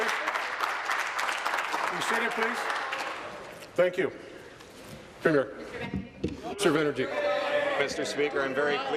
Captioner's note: applause